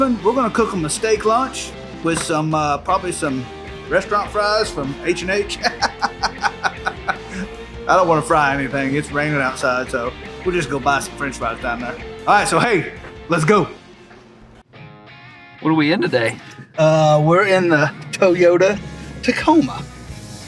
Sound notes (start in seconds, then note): 5.4 laughing